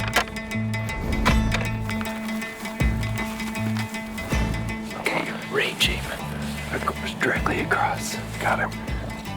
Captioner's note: whispering